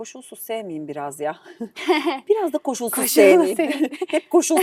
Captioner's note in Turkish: kahkaha